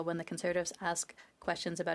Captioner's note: speaking French